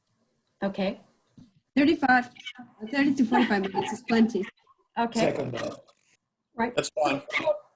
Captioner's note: laughter